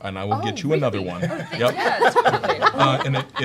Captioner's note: laughter